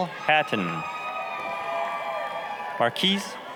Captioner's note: applause, cheering